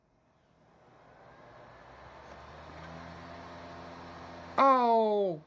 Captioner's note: laptop dvd drive spinning